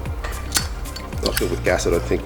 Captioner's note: lighter flicks